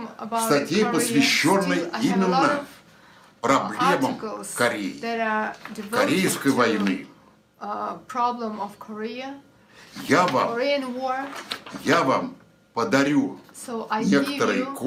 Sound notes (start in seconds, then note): 0.9 foreign language